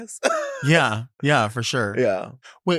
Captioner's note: laughs